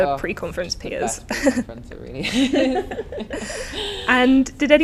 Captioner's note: laughs